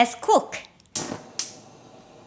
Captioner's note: stove ignites